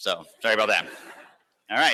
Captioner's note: laughter